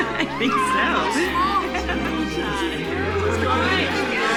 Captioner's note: chatter